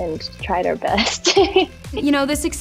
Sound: laughs

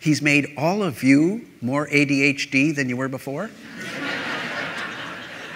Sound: laughter

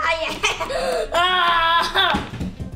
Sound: yells and laughs; onion tumbles

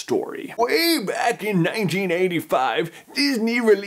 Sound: old man voice

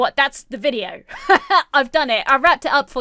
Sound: laughs

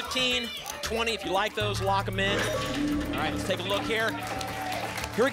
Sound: applause and cheering

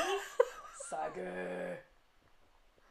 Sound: silly, deep voice

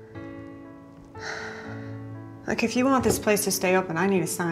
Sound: sighs

